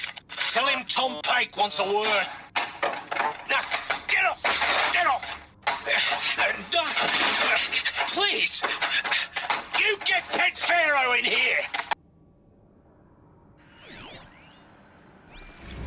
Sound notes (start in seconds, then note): 2.7 sounds of struggling; 5.5 sounds of struggling